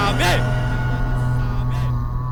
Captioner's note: reverb